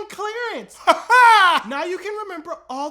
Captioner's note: weird laughing